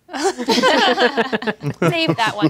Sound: all laughing

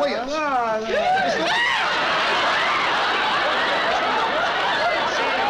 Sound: screaming

